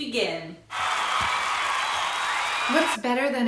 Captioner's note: cheering